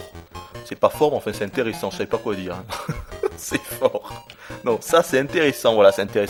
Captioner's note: laughs